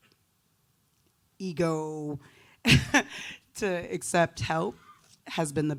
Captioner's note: chuckles